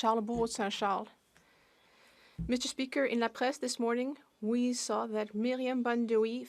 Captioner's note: speaking French